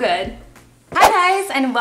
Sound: whoosh

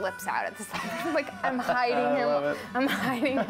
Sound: laughing

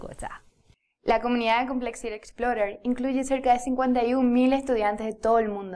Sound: speaking Spanish

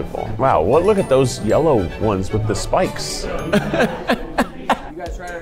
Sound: laughing

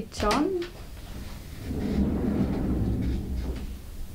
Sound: door rumbling

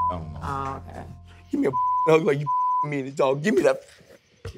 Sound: beep; beep

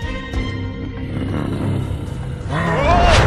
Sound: deep growl; roar

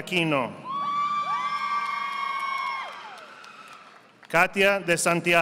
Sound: audience applauding

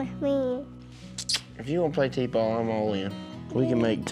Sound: kisses

